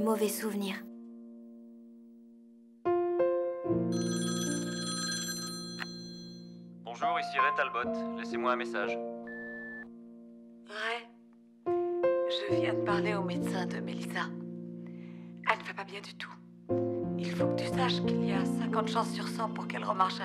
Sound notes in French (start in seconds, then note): 0.2 le téléphone sonne; 9.2 bip du répondeur